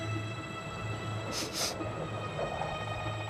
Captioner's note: sniffs